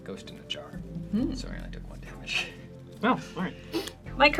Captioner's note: laughs